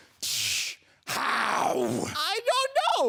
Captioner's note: snapping sound